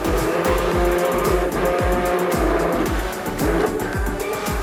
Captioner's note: blender whirring